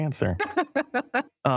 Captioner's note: laughter